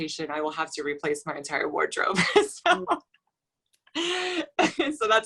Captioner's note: laughs